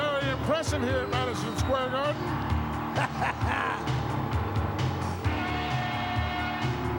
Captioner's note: Jim cackles